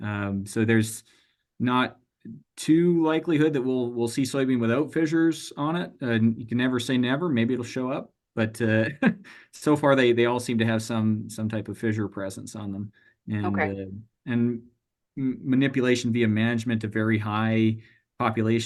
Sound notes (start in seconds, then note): 8.8 chuckles